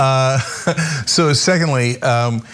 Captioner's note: laugh